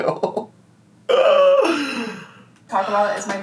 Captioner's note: groaning